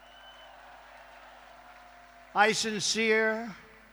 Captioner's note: applause